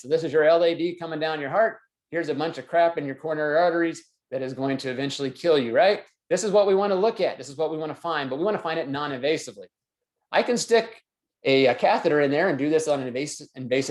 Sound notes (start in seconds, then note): none